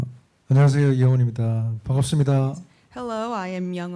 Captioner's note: speaking korean